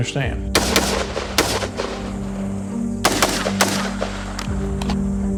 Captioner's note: gunshots echoing